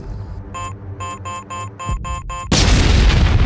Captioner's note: bomb beeping; bomb exploding